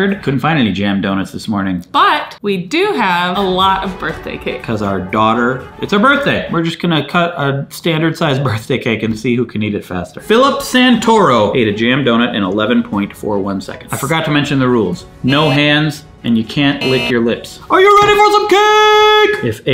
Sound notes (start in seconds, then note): 16.6 buzzer goes off